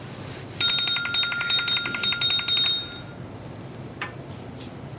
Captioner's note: bell ringing